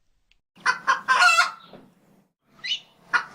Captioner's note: rooster Crows